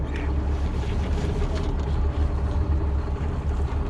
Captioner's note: boat engine idling